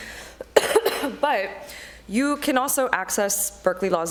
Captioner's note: coughs